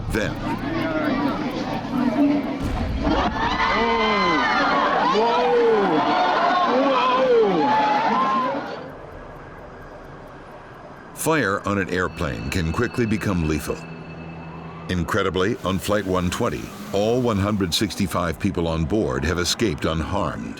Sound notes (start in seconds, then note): 2.6 exploding; 5.2 crowd screaming